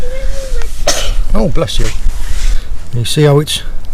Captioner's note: child sneezes